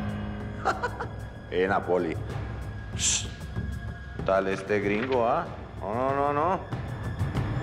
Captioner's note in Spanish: risas